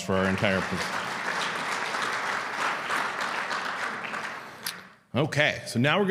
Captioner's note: audience clapping